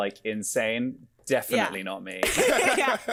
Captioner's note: both laughing